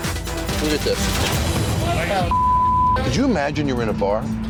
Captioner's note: beep